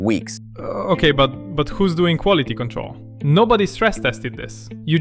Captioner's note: stammers